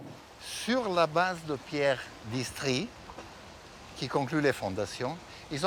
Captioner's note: speaking in foreign language